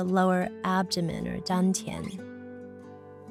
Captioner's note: woman speaking in foreign language